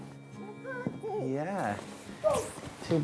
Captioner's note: baby mumbles